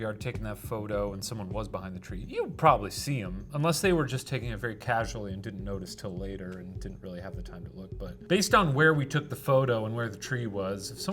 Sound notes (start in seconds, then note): none